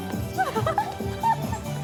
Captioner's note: chuckles